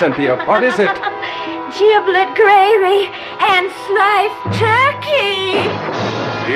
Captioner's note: deranged cackling